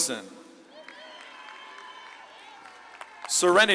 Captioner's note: audience claps and cheers